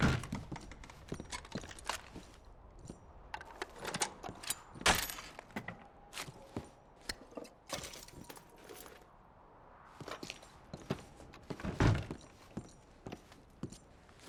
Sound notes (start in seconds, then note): none